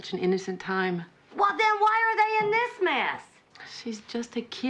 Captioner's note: shouting